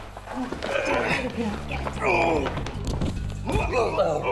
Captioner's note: grunting